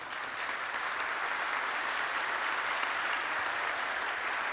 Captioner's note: applause